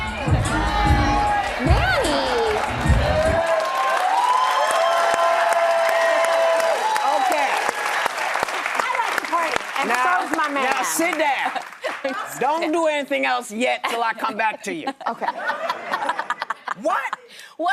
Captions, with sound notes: Nanny! (audience applauds) Okay. I like to party, and so is my man. Now sit down. Don't do anything else yet 'til I come back to you. Okay. What?